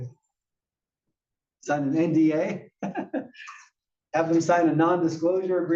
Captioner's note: laugh